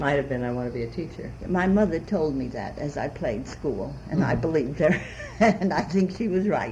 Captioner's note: laughs